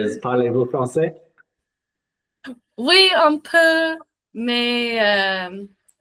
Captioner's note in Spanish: en francés